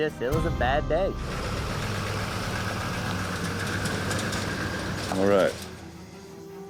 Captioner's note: truck engine